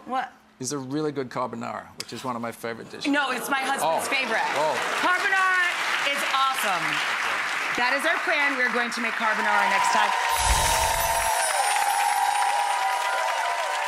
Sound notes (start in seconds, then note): 9.2 audience cheers; 10.3 tinkling music